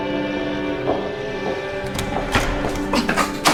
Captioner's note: door clicks open; footsteps clacking